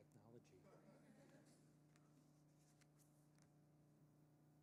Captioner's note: audience laughing